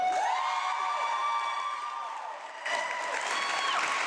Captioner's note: audience clapping